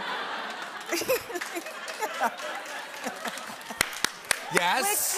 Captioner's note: laughter